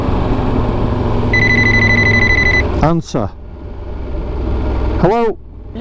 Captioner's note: telephone Ring